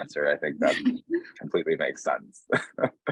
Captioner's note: chuckling